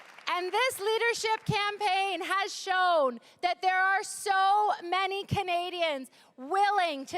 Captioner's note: cheering and applause